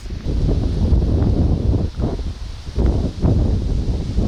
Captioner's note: wind blowing